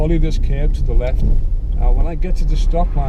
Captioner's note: indicator clicking